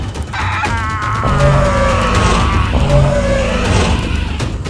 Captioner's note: Og growling